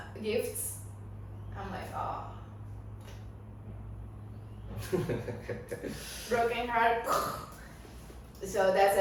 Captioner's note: risas